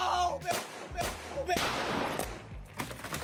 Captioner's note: balloons popping